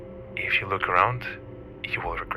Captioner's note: none